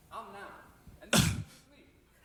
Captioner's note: old man cough